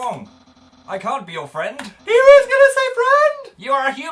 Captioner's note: wails